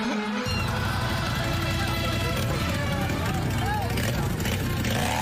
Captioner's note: engine revving; laughing